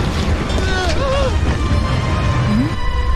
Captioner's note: panicked yelling